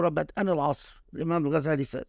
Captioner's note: speaking Arabic